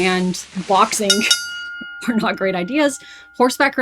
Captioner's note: bell ringing